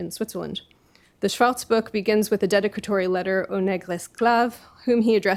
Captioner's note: french